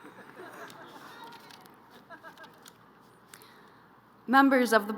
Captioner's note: crowd laughing